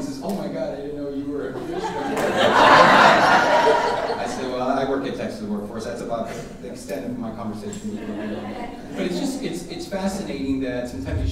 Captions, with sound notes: He says "Oh my God, "I didn't know you were a commissioner." (audience laughing) I said "Well I work at top Texas Workforce." That's about the extent of my conversation-- (audience drowning out speaker) It's fascinating that sometimes